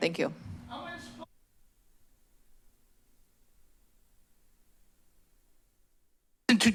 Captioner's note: silence